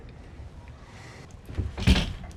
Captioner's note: metal clanking